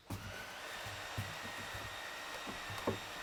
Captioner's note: machine whirring in the background